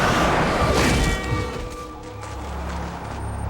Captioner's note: car swerves; car horn